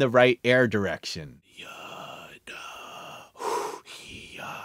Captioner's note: whispering